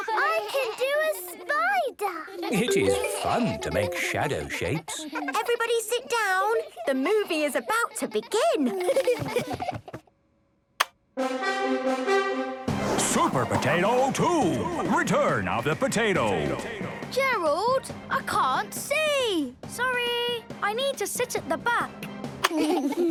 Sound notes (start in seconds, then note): 1.5 laughter; 8.6 laughter; 10.8 click!; 11.2 epic music; 22.4 laughter